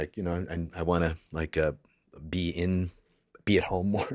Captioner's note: laughs